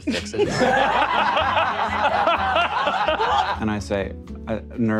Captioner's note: players laughing